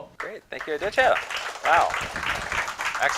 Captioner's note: applause